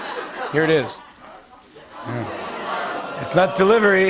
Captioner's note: audience groans